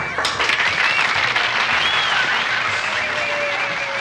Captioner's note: cheers and applause